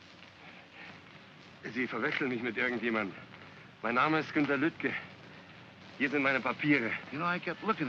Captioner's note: speaking in German